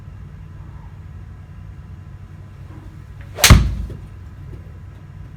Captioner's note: hits golfball